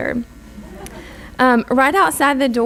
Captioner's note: audience laughs